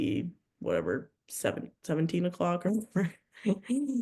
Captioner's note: chuckles